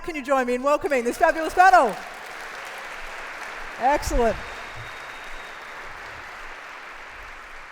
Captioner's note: applauses